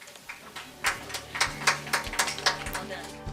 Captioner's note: audience applauding